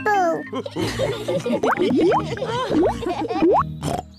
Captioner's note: laughs and snorts; all laugh